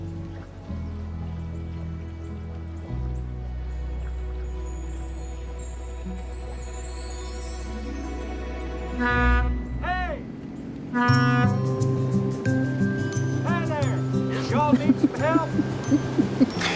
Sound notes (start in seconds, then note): 10.9 horn honks; 14.3 drucinda giggling